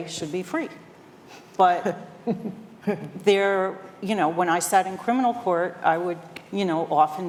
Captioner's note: laughter